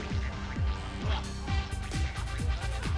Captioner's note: chuckles